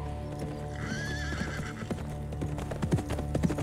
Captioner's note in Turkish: At kişniyor